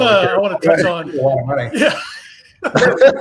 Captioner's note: laughs